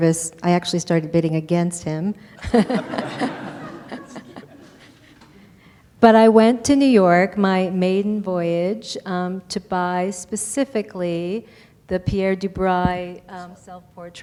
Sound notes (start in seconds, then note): 2.4 laughter